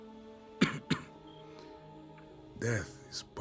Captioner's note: cough Cough